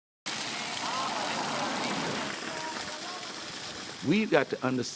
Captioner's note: water splashes